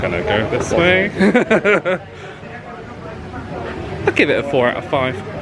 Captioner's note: laughs